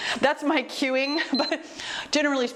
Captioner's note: timer beeps